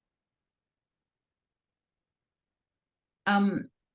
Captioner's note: silence